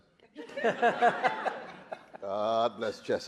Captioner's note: audience laughing